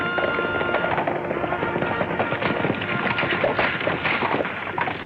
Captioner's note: lively trumpet music; horses galloping